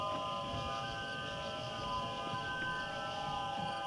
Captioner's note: crickets chirping